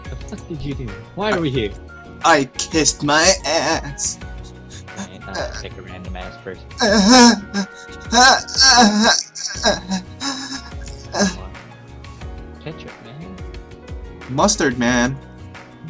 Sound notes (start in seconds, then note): 6.0 interrupts with schmexy noises; 6.8 proceeds to make more gross noises